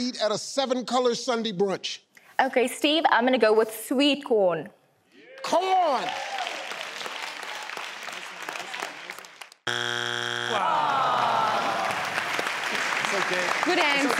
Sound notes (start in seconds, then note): 6.0 clapping; 9.7 beep; 10.8 clapping